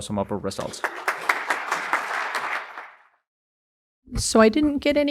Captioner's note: audience applauds